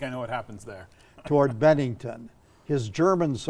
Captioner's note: chuckling